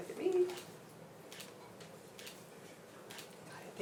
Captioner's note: camera shutter clicking